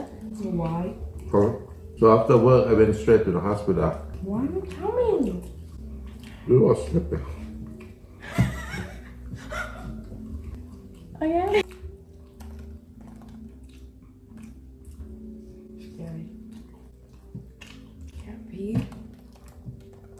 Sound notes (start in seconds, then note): 8.0 wheezing